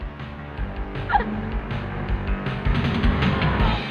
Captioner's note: laughing